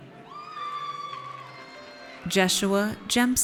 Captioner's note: audience cheers